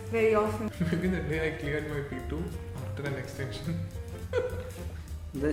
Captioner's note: laughs